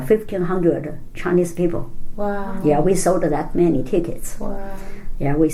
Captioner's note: none